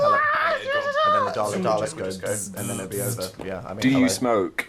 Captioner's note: makes buzzing noises